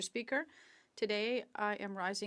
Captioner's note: speaking French